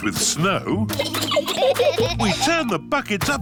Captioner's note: giggling